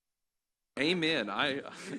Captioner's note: laughter